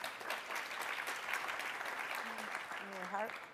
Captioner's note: audience applauding